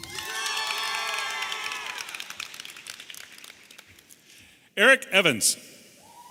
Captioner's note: audience applauding and cheering